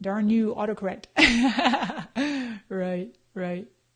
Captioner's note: laughs